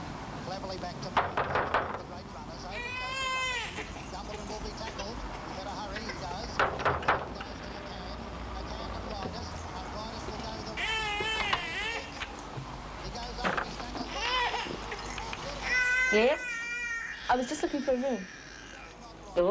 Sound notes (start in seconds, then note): 2.6 baby crying